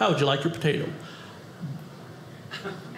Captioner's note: audience laughing